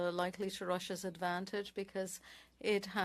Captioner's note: speaking French